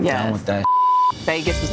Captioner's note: beep